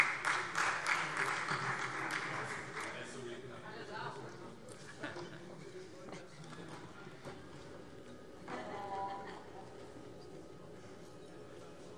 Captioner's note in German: Beifall Freie Demokraten